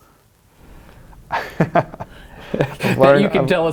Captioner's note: laughs